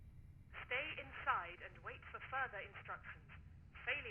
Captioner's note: intercom